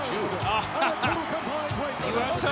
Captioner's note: Lord Alfred Hayes chuckles